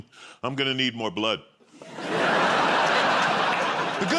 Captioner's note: laughter